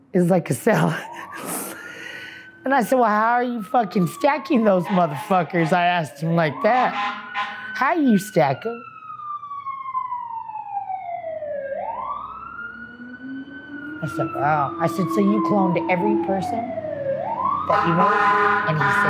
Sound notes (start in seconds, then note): 0.7 laughs; 9.0 siren wails